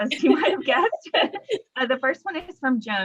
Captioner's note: laughs